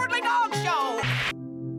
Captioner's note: static